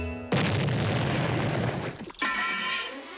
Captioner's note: boom